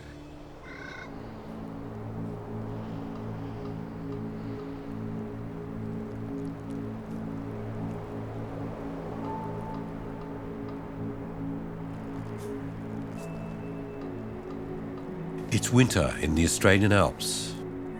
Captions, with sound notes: (bird calls) (mystical music) (wind howls) It's winter in the Australian Alps,